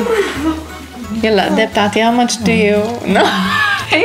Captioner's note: non-English speech